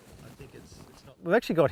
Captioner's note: men chattering